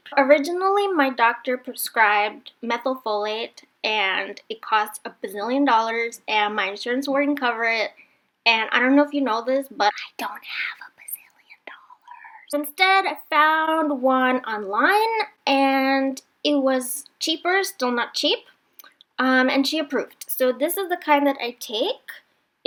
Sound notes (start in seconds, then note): 10.0 whispers